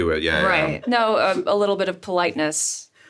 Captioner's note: Richard chuckles